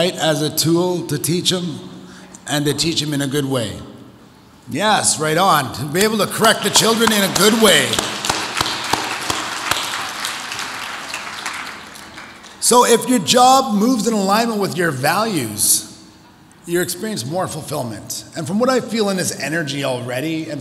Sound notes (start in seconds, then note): 8.1 audience applauds